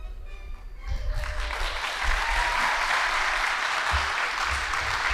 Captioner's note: audience applauding